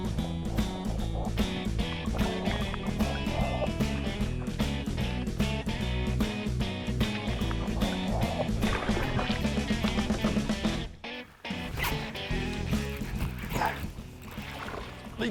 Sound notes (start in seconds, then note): 0.2 upbeat rock music continues; 8.4 water splashing; 8.9 upbeat rock music; 11.1 fishing reel winding